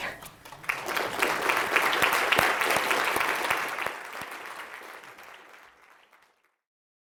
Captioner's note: applause